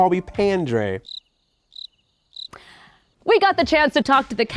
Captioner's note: crickets chirping